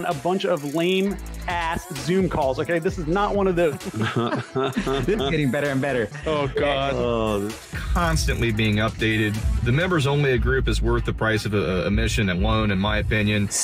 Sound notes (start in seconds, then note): 3.6 chuckles